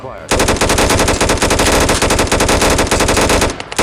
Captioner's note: gunfire